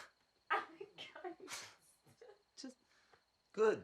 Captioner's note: both laughing